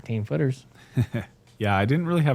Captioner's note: chuckles